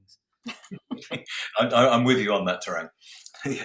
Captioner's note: laughs